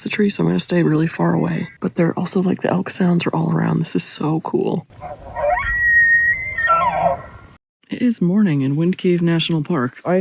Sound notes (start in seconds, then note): 4.9 loud elk bugle